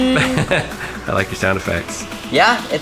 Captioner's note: laughs